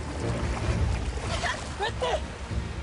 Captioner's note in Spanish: Ruido de la fuerte corriente